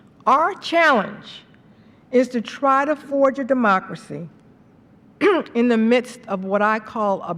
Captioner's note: clears throat